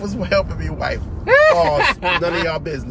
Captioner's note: laughter